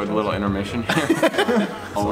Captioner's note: laughing